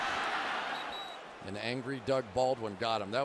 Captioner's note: whistle